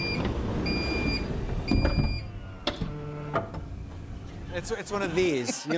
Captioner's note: door sliding